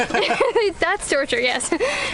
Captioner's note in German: Lachen